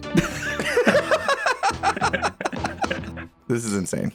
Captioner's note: both laugh